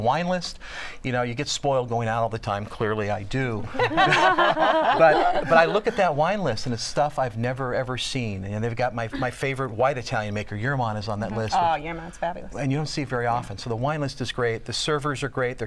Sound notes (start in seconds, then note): 3.7 laughter